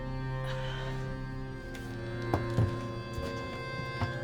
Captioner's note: suspenseful music continues; Claire sighs